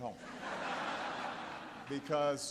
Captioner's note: laughter